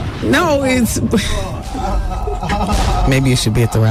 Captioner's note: laughter